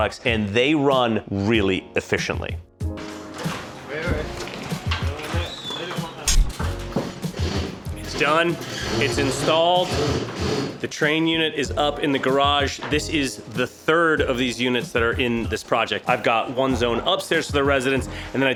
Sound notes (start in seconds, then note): 2.8 laid back music; 2.8 machines whirring